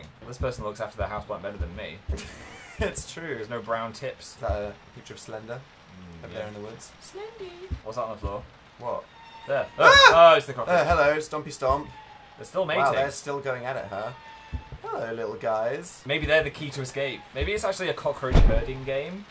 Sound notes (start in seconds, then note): 2.1 laughs; 7.0 falsetto; 9.0 screams